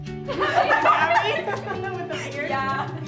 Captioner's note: all laughing